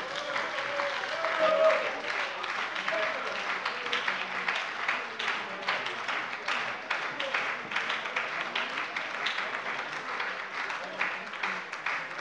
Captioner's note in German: Anhaltender Beifall bei der SPD und der LINKEN - Zurufe von der CDU